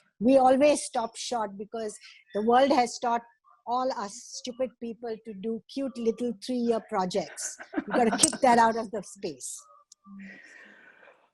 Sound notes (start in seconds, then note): 7.2 laugh